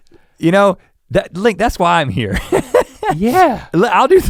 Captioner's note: chuckles